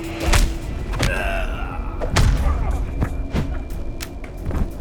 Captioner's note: both grunting